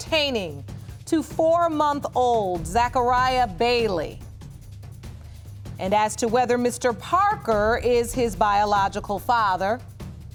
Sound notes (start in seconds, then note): none